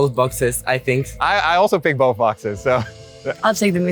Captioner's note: laughs